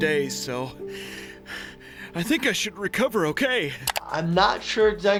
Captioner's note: breathing heavily